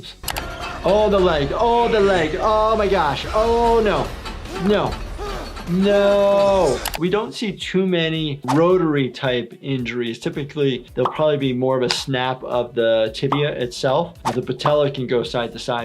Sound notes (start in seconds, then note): 5.2 person screaming